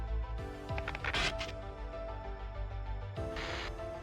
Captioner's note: energetic suspenseful music; radio static hissing